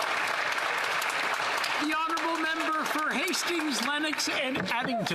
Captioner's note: some Applause